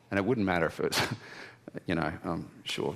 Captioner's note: chuckles